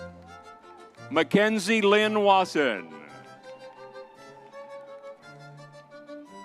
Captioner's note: crowd cheering